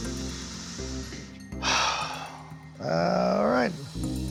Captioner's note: sighs